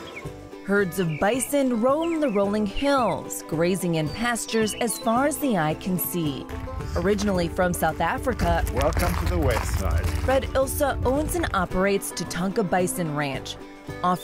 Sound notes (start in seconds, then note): 0.2 birds chirp; 9.7 gravel crunches